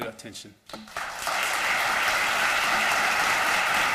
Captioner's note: applause